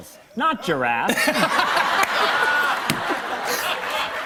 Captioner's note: laughter